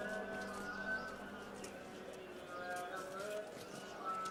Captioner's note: background chatter